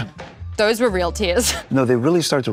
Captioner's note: chuckles